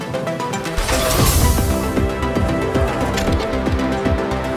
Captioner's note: grunting